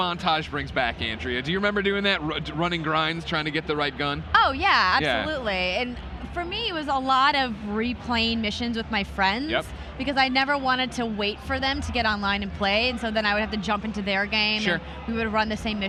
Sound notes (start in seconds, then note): none